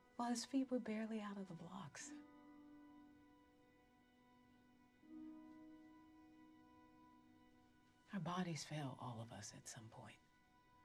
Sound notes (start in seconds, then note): none